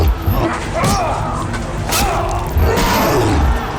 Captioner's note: grunting; sword clangs